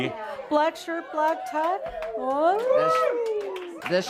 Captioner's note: audience responds “Wooo!”